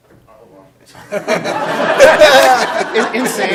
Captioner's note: laughter